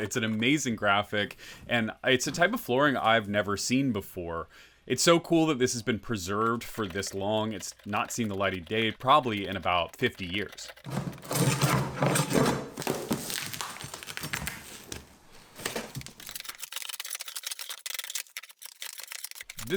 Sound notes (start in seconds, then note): 10.8 prying old flooring, staples being pulled up; 15.3 sped up sounds of prying floor up